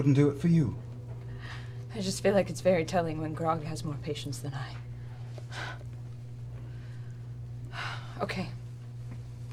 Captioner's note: sighs